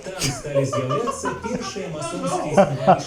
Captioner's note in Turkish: kahkaha